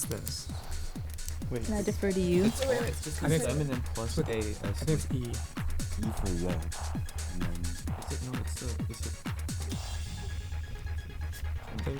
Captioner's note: whispering